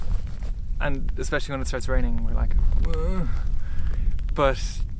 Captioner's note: desperate groan